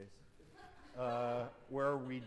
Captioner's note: laughter